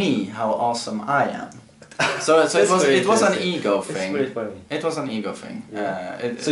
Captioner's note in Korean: 웃음